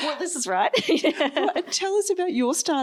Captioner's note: laughs